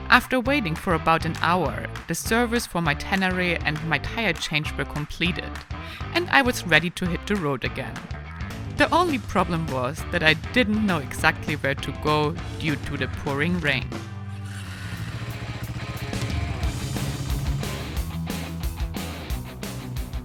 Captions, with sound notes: After waiting for about an hour, the service for my Tenere and my tire change were completed and I was ready to hit the road again. The only problem was, that I didn't know exactly where to go due to the pouring rain. (bike engine roaring) (gentle upbeat music)